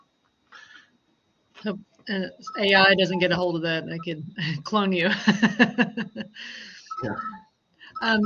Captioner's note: phone ringing